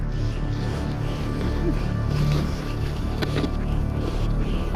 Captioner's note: heavy breathing